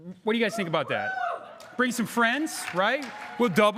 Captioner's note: crowd cheering